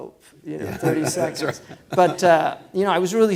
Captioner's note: laughs